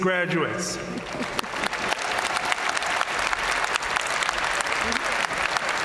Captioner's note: audience cheering and applauding